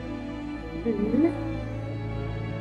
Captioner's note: Giancarlo cooing